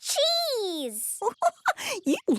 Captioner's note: giggling